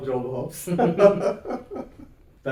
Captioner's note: laughs